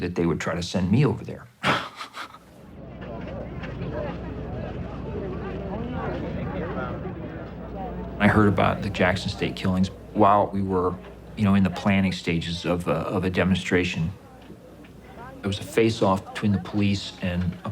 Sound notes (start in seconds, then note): 1.6 laughs; 2.6 people talking